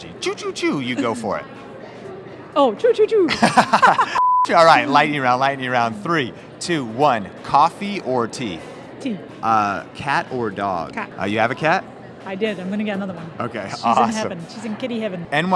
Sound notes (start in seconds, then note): 3.2 laughing